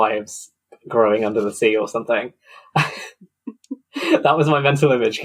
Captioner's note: laughs